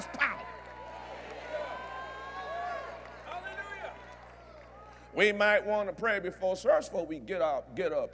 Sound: cheers & Applause

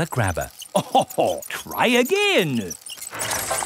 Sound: chuckles

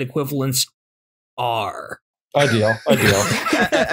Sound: laughter

